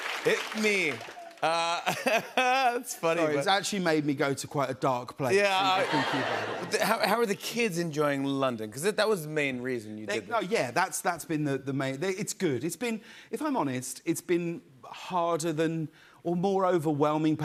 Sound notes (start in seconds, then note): 0.0 laughs; 1.4 laughs; 5.5 laughter